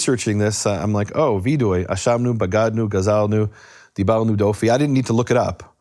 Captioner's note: speaks in foreign language